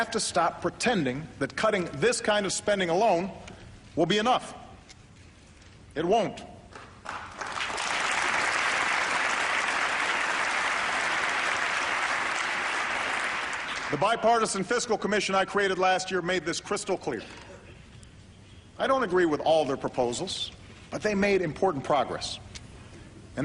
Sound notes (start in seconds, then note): 6.7 applause